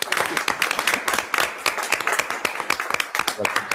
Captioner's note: everyone applauds